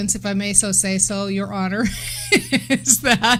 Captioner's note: laughing